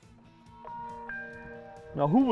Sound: phone rings

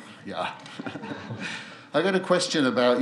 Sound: laughs

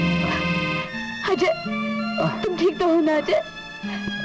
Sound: groans

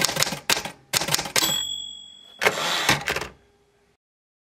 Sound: clacking typewriter; typewriter bell and carriage return

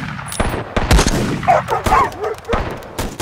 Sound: barking

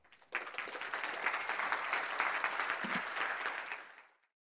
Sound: audience cheers

